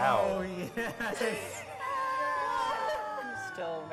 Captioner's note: wheezing; cheering